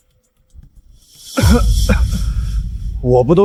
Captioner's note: cough